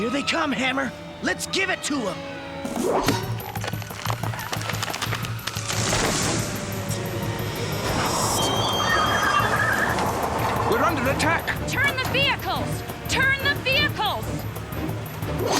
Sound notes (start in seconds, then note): 3.2 creaking; 7.9 brakes squealing